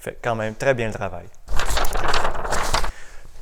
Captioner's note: unbearable noises of sheets